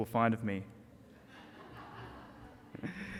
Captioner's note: audience laughter